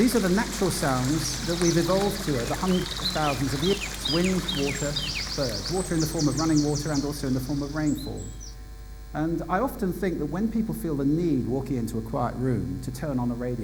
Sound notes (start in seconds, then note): 5.1 birds chirping